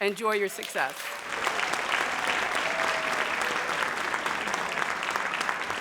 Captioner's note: audience applauds